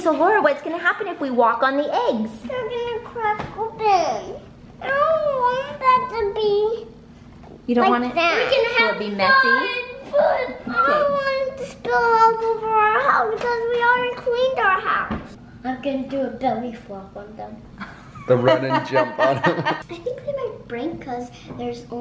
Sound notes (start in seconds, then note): 17.8 mom laughing